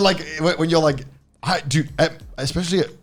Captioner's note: laughing